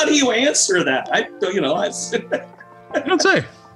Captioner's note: laughs